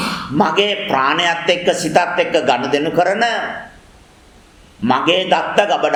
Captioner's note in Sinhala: උගුර කෑරීම